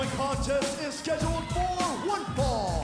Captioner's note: bell ringing